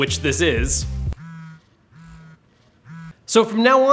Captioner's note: controller humming